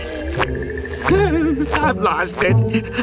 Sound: whimpering

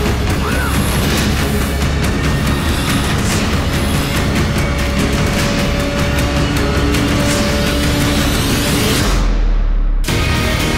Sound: crowd Cheering

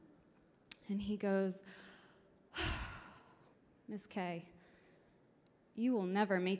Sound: sighs

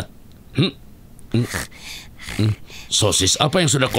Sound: panting

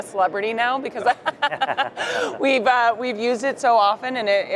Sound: laughs

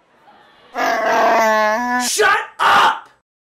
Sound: Chewbacca roars

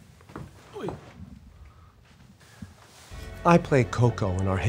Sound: hits wall

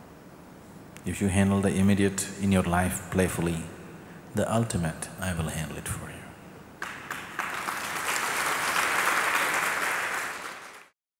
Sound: applause

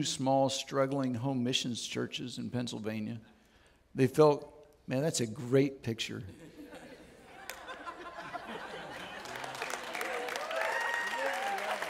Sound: audience Cheers

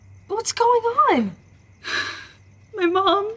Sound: sighing

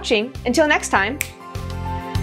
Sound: snap!

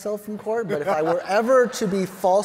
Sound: all laughing

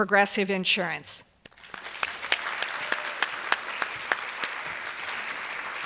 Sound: applause

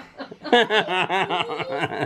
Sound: laughing

